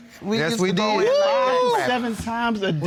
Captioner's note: exclaiming